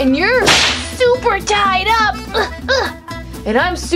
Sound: whip lashes; grunting

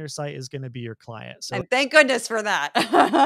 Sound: laugh

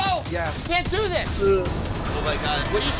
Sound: retching

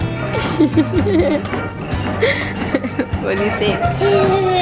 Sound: laughs

